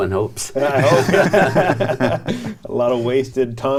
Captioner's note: all laugh